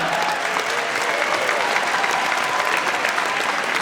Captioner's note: audience applauds